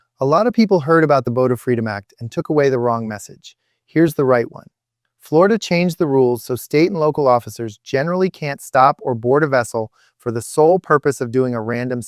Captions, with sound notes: Sometimes it does the opposite. Consent turns a short contact into a full exploration. So if you don’t want to consent, here’s your line: [exhales sharply] “Officer, I don’t consent to any searches.”